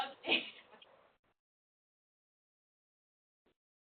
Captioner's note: laughing